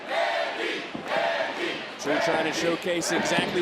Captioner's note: crowd chants "mandy"